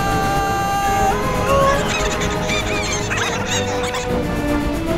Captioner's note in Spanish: Vagones riéndose